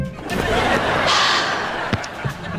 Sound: sighing

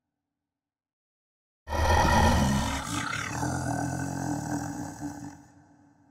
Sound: demonic groaning

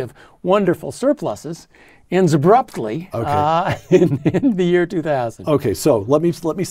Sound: laugh

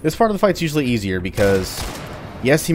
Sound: Colt firing

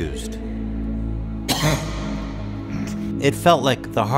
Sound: cough

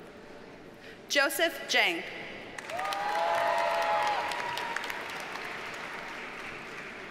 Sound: audience cheers and applauds

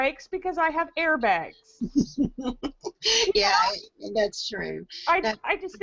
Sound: laugh

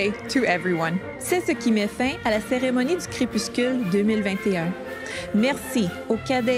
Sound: repeats the message in French

